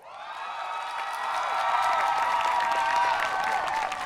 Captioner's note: people cheering